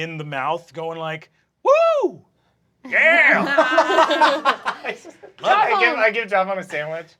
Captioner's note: cast laughing